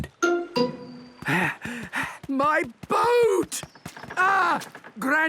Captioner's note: panting